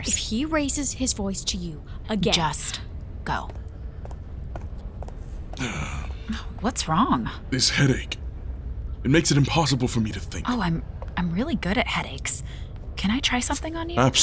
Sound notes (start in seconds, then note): 3.3 footsteps away; 5.6 Chartrulean groaning